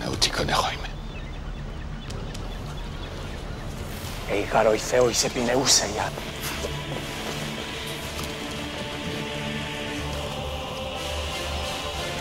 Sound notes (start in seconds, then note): 0.1 Themistocles speaking in foreign language; 4.4 speaking in foreign language; 7.1 dramatic opera music